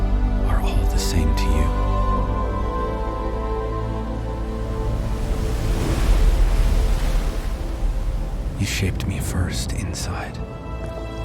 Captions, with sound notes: are all the same to You. (waves crashing) You shaped me first inside, then out.